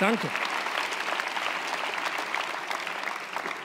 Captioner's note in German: Applaus